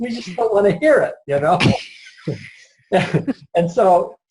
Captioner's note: laughs